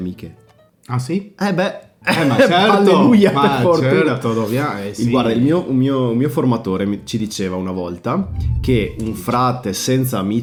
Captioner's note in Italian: risate